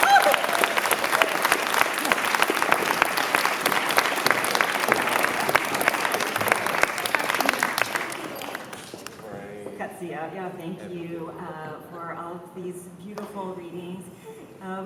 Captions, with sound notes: [APPLAUSE] Great. Qe'ci'yew'yew'. Thank you for all of these beautiful readings.